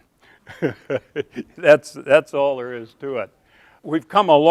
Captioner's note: laughing